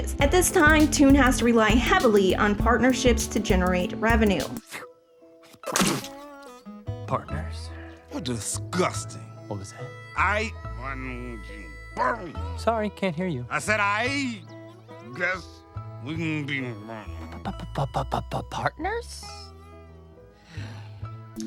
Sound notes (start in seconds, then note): 5.4 hawks loogie